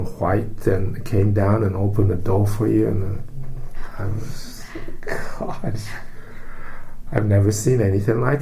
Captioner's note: all laugh